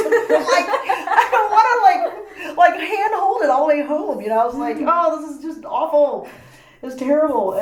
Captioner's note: laughs